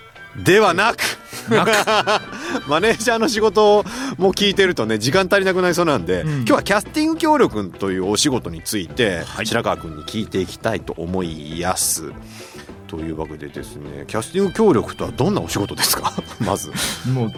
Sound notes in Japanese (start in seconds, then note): 0.9 笑い